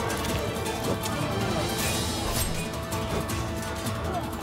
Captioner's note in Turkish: Kılıç sesleri